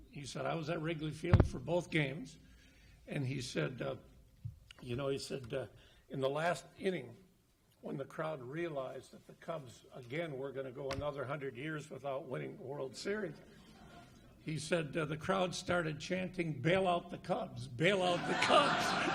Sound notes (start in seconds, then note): 13.9 audience laughs; 18.1 audience laughs; 18.2 laughs